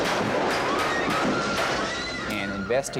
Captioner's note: gunfire popping; patrons shrieking